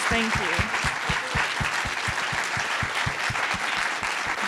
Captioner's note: applause